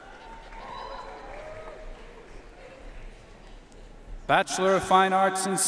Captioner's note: audience cheering and applauding